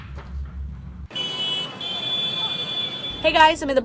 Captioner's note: horn honking